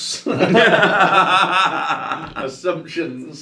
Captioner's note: both laughing